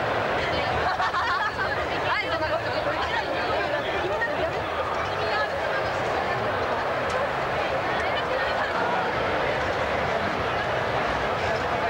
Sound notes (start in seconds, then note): 0.6 laughs